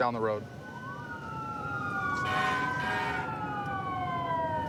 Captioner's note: emt sirens blaring